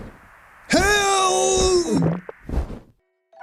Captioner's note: none